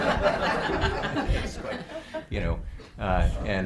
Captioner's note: group laughing